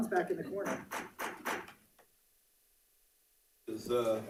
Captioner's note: gavel pounding